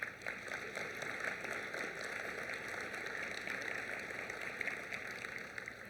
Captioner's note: applause